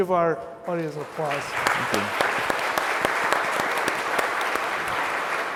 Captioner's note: applause